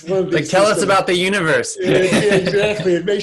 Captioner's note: laughs